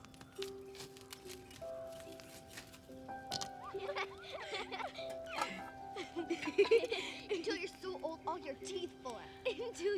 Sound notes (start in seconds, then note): 1.9 laughter rises nearby; 3.5 girls giggling